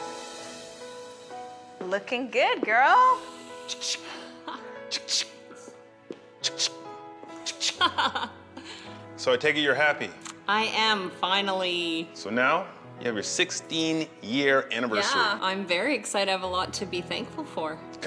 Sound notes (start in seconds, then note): 0.1 soft music; 3.6 imitating camera clicks